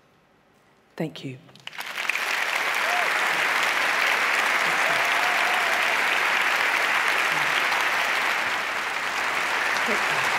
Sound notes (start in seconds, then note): 1.6 applause